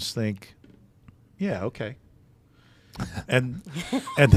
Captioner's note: laughing